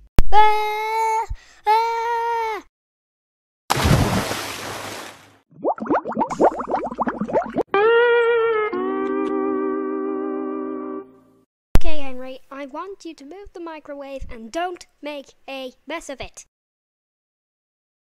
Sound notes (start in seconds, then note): 0.1 screaming; 3.7 splash